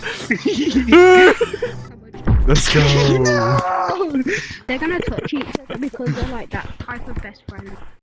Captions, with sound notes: *Gorilla noises* Let's go. they’re gonna touch each other because they’re like THAT type of best friend